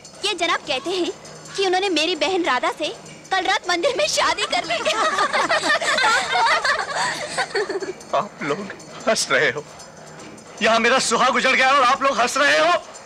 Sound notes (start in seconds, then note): 3.7 laughs